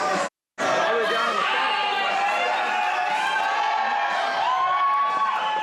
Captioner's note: cheering